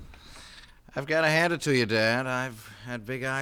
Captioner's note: door closes